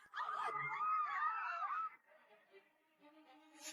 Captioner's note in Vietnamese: la hét